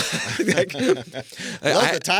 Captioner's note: laughing